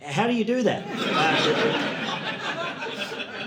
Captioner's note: audience laughing